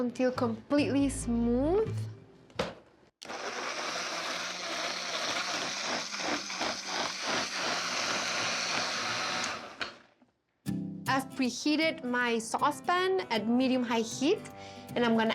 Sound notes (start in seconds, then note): 3.2 blender whirs